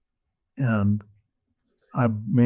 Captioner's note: none